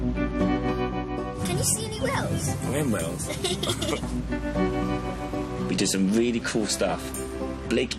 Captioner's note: laughter